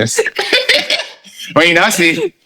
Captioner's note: laughing